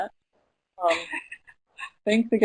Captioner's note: laughing